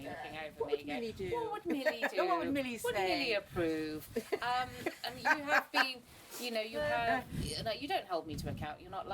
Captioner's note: laughs